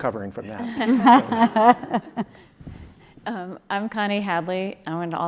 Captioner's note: laugh